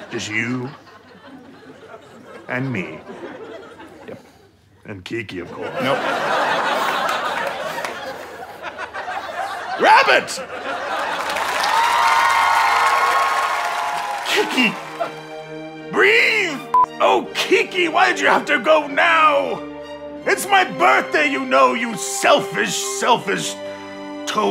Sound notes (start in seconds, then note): 7.1 audience laughter; 10.8 audience applause